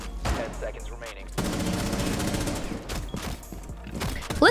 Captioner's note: gunshots